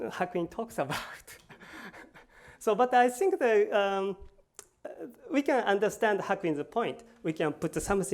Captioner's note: laughs